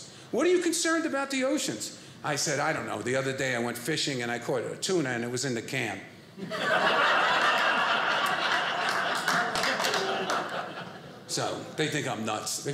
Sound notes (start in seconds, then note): 6.4 audience laughing; 7.3 audience cheering